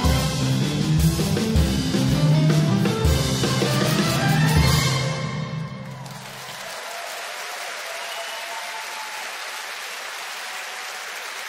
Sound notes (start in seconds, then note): 5.8 audience applauds and cheers